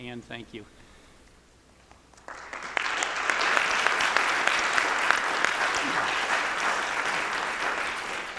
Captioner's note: applause